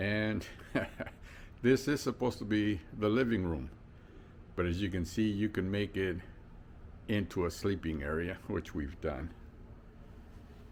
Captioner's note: laughter